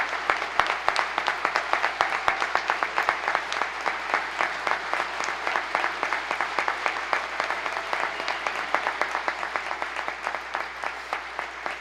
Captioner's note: applause